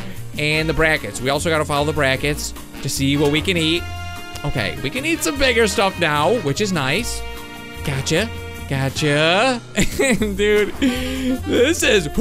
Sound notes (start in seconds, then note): 9.7 giggles